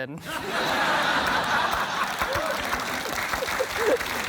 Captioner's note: laughter